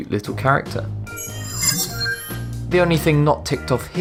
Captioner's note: sharp chiming